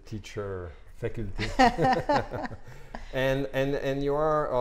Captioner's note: laughs